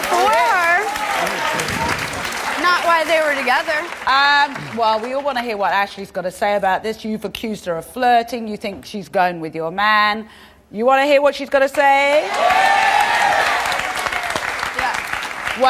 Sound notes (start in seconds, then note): 0.0 audience applauds; 12.1 audience applauds